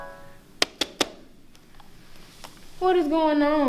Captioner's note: knocking